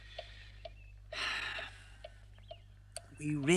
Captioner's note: Rat sighs